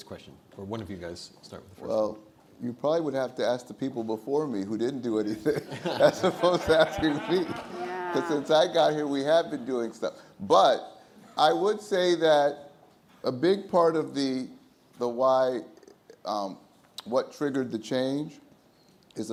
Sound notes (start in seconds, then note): 5.4 everyone laughs